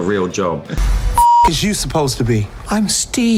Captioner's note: beep